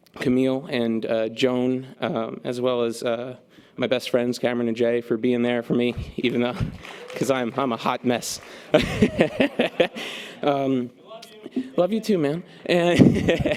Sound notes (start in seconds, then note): 8.4 laughs